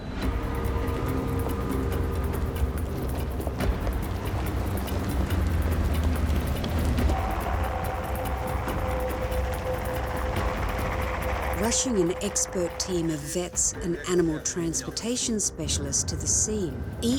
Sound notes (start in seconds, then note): 0.3 dramatic tense music; 7.2 helicopter blades whirring